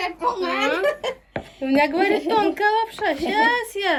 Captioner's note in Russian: Хозяйка о себе. Смех